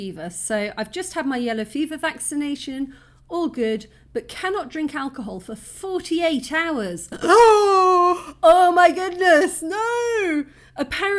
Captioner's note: gasp